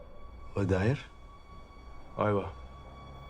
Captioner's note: man speaks Arabic